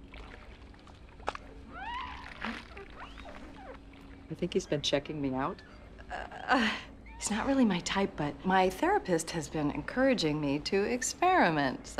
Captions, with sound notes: (window squeaking) I think he's been checking me out. He's not really my type, but my therapist has been encouraging me to experiment, so.